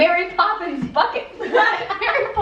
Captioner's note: laughter